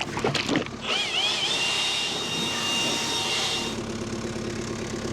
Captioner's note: blower whirring